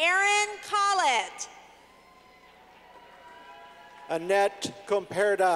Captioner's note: clapping